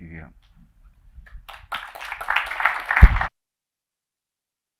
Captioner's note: applause